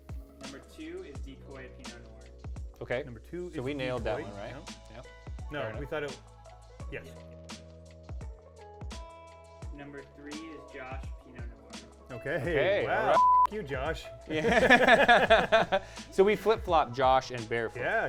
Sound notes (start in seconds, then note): 13.1 beep; 14.3 laughing